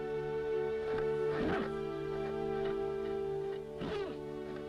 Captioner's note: horse snorting